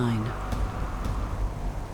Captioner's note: strong winds blow